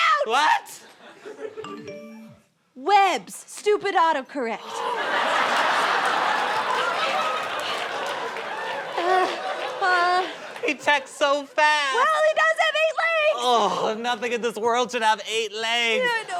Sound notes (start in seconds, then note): 1.7 phone vibrates; 4.9 gasps